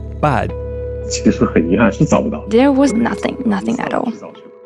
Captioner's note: speaking Mandarin Chinese